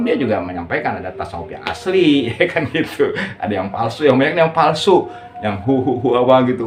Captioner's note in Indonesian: tertawa